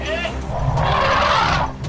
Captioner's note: man shouts